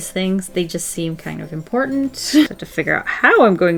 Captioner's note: laughs